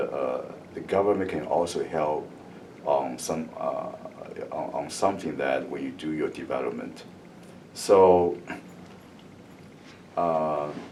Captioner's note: coughs